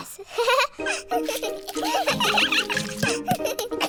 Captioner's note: giggles; all giggling